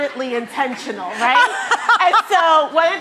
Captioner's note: laughing